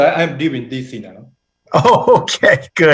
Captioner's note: laughter